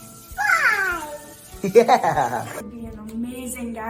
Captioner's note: laughs